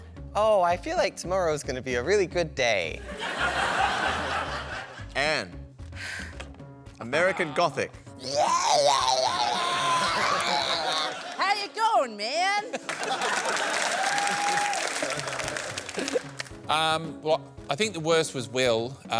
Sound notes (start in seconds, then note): 8.3 babbles; 11.4 american accent